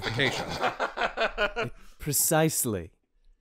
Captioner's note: laughter